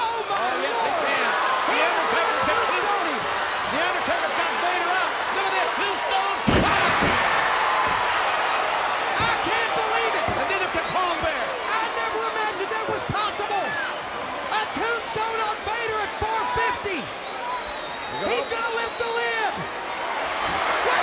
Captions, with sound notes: Oh my God. Oh yes, he can. The Undertaker's gonna tombstone him. The Undertaker's got Vader up. Look at this, Tombstone Piledriver. (audience cheers) I can't believe it. And neither can Paul Bearer. I never imagined that was possible. A tombstone on Vader at 450. He's gonna lift the lid.